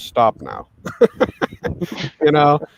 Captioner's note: all laughing